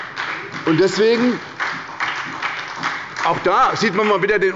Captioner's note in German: Beifall bei der SPD